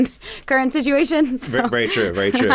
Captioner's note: laughs